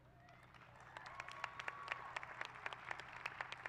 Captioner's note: applause